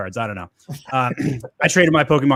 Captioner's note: laugh